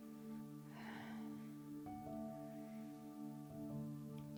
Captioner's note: deep breathing